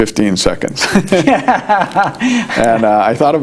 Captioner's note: laughing